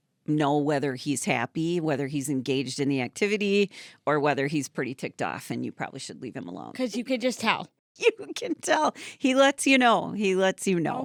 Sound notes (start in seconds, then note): 8.0 laughing